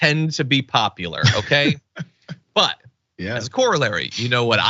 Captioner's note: laugh